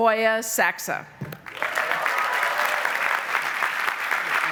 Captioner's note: applause